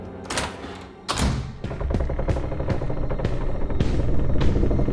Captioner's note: wooden boards creaking